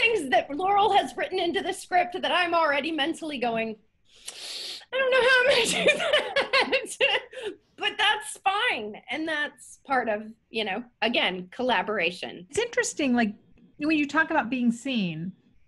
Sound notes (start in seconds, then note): 4.1 inhaling; 5.3 laughs